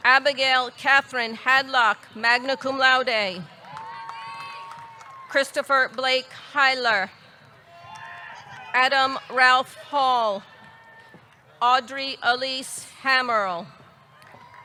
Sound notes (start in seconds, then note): 3.6 audience clapping; 3.6 audience cheering; 7.8 audience cheering; 14.1 audience clapping; 14.2 audience cheering